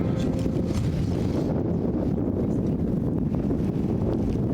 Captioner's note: wind